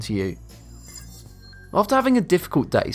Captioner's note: futuristic ringing